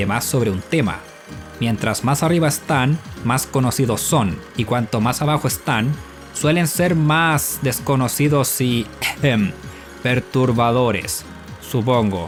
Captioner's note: ahem